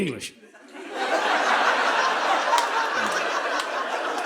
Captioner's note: audience laughing